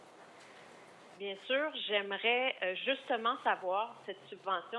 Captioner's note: speaking French